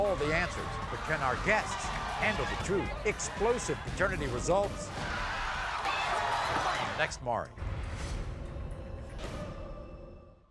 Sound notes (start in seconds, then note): 4.9 yelling; 7.9 whooshing